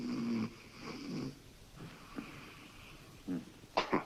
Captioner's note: Charlie shoring